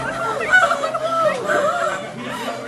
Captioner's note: students crying